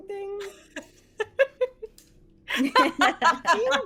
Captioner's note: laughs